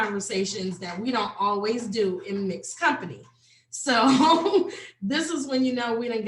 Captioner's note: laughs